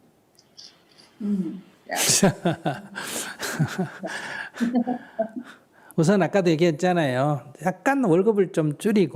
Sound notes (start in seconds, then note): 2.0 laughter; 2.1 questioner laughter